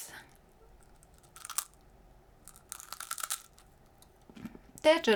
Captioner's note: toasted bread crunching